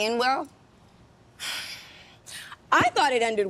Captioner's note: sighing